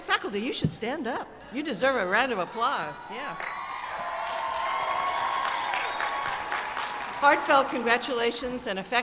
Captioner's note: applause